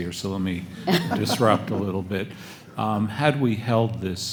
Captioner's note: panelists laugh